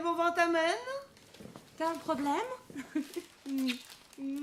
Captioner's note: giggling